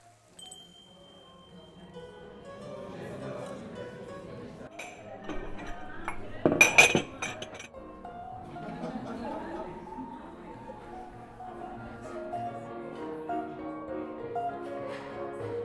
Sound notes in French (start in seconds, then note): 4.7 bruit de vaisselles; 7.9 musique et on entend des personnes parler